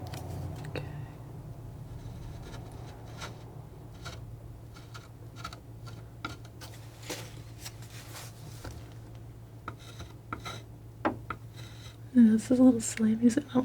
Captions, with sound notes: Okay. [tapping] This is a little slimy, so